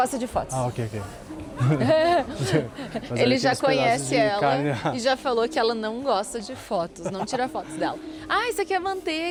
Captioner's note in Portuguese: risadas